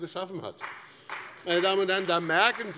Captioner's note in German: Beifall bei dem BÜNDNIS 90/DIE GRÜNEN und der CDU